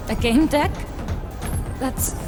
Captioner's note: digital chime as “leave” is clicked